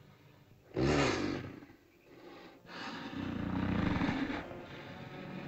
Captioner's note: dinosaur snorts